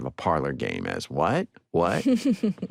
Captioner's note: chuckling